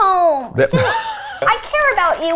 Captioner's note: laughs